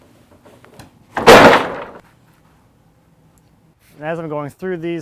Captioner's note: boards crash